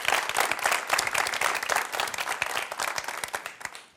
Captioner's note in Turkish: alkış